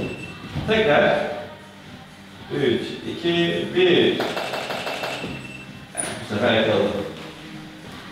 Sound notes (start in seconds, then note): 4.3 flash popping sounds